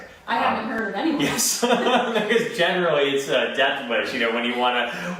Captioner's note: laughs